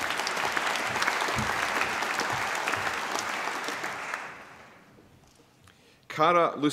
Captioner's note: applause